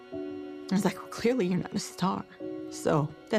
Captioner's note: voice breaking